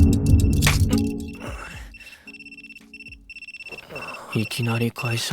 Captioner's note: alarm clock